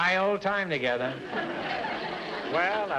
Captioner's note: audience laughter